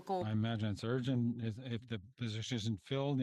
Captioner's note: speaking French